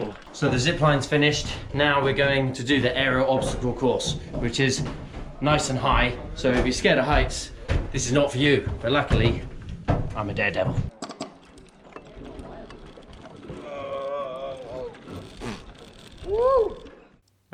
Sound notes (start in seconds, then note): 10.8 rattling; 12.1 groans; 14.6 snorts